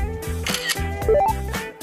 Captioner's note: click